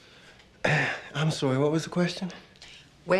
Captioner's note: clears throat